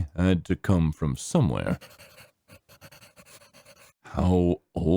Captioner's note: pencil scribbling